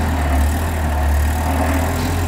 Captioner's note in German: Motorgeräusche